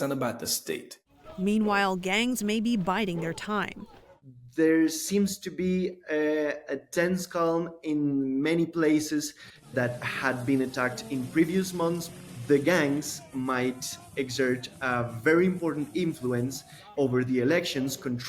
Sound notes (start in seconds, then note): 1.8 voice-over